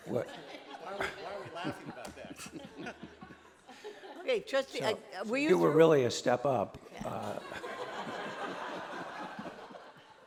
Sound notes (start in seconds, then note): 7.1 laughter